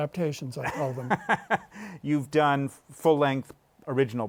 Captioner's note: laughs